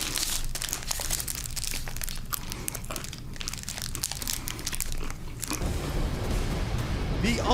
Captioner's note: crunching